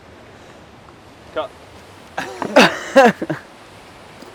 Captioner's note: laughter